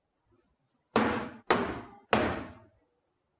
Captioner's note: loud thumping